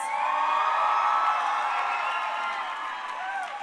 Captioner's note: crowd cheering